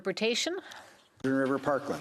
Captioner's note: speaking French